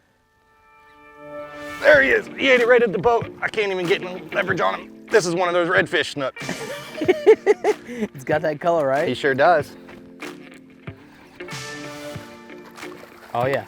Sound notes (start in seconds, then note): 0.6 dramatic music playing; 6.4 laughs; 11.4 dramatic music playing